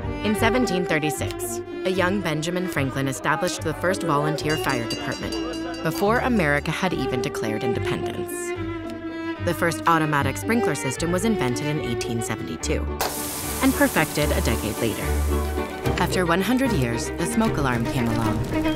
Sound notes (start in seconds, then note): 13.0 sprinkler pops